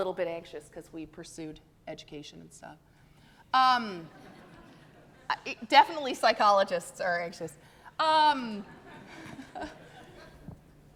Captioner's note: audience laughing